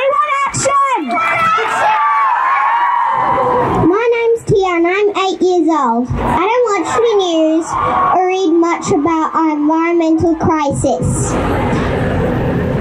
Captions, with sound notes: We want action! (cheering) My name's Tiana and I'm 8 years old. I don't watch the news or read much about our environmental crisis.